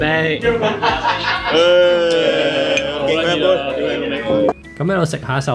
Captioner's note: laughter